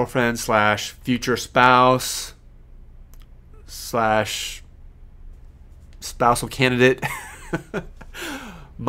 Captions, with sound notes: /spousal candidate, (laughing)